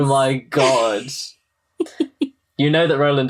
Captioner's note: gasps